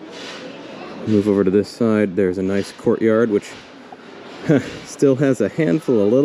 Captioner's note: half-laugh